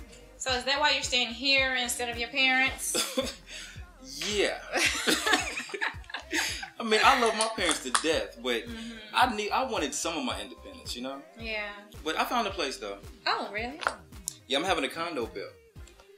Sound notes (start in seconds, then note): 3.2 laughs; 4.7 laughter